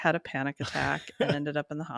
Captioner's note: chuckles